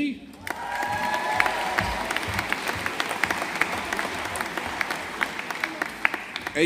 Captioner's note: audience applauding